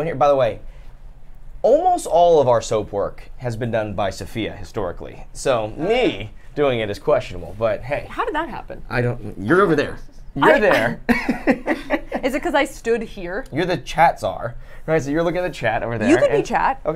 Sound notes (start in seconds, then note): 10.5 laughs; 10.5 chuckles